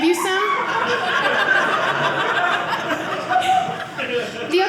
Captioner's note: audience laughing